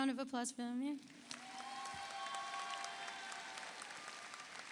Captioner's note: audience applauds